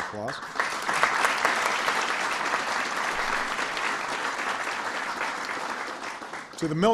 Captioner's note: applause